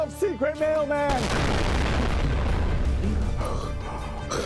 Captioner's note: explosion